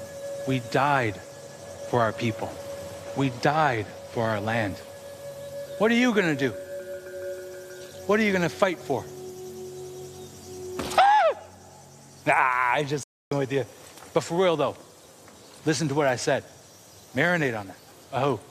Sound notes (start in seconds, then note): 11.0 screeching